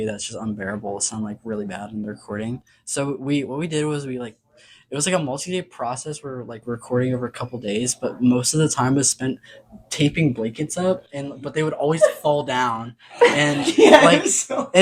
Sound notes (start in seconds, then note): 13.2 all start laughing; 13.2 laughing